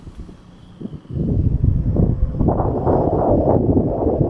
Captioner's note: motor humming; wind whooshing